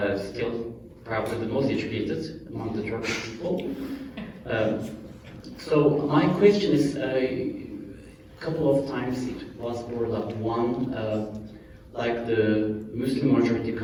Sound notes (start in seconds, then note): 4.1 laughter